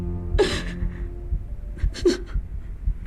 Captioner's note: sobbing